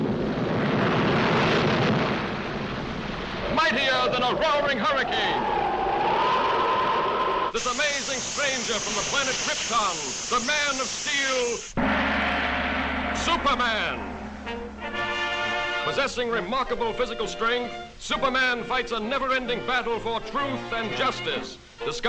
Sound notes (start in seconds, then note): 1.6 waves crashing; 5.7 wind howling; 11.7 gong booms